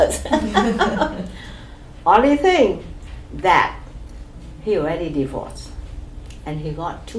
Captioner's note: laugh